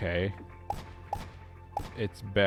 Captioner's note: gunshots